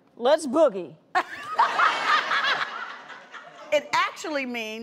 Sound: laughter

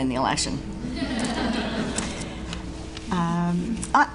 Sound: audience Laughs

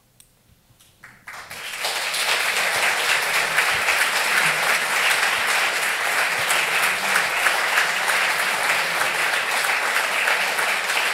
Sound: applause

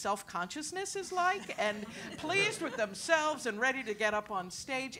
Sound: laugh

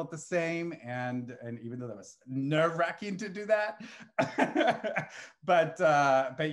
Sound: laughs

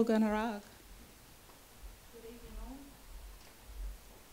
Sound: speaks in Yorta Yorta language

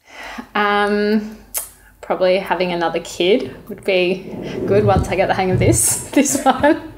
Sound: laughing

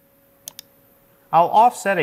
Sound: mouse clicking

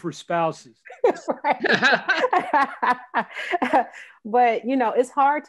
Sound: laughing

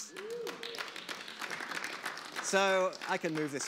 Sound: audience applause

